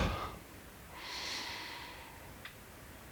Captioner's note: breathing